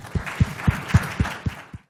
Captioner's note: applause